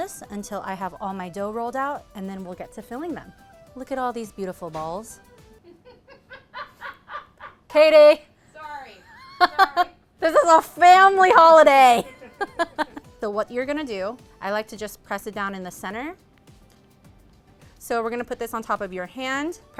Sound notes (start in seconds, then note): 5.6 laughs; 12.0 laughs